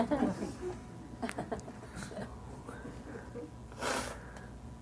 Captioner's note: participants laughing